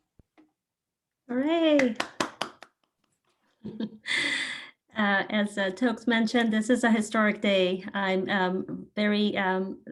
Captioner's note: claps